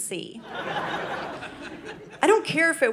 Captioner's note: audience laughing